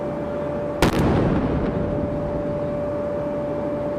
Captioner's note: cannon firing